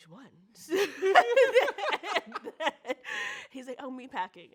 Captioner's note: both laugh out loud